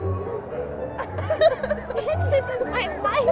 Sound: girls laughing

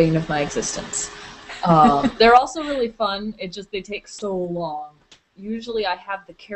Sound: chuckles

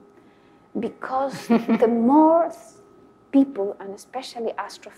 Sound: laughs

